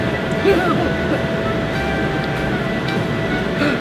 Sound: laughs

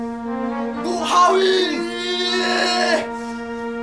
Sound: screams

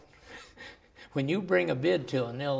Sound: laughs

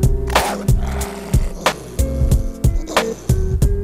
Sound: dog barking

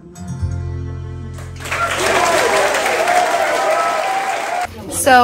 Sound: applause

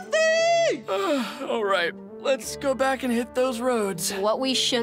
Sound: big yawn

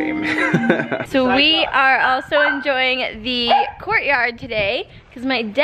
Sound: laughs; dog barks

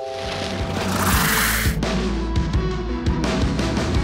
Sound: upbeat music; splash

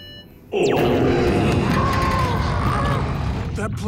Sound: monster indigestion noise

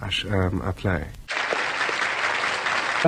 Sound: clap, clap

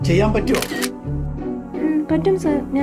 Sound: camera clicks

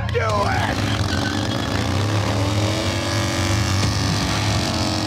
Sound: motorcycle engine revs

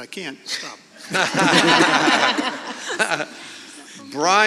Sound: audience laughing

